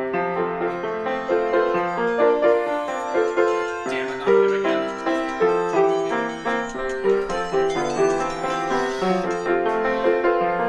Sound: ringtone going off

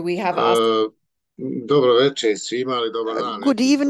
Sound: non-english speech

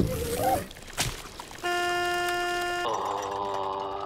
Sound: horn beeping

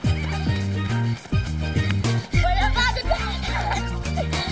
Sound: laughs; both panting

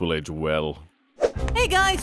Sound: transition woosh

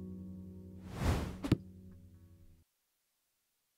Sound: logo whooshes

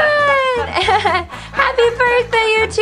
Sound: giggles

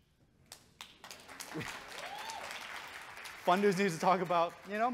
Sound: audience cheering and clapping

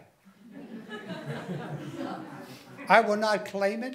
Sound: laughing

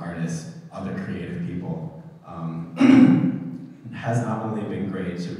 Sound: throat clearing

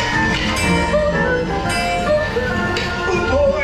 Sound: clock chimes

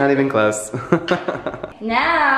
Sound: laughs

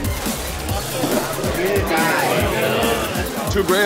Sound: loud chatter

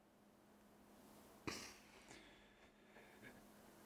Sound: sniffs

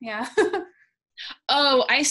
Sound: laughs

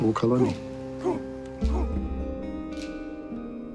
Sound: men chanting

